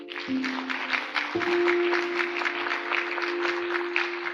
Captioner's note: applause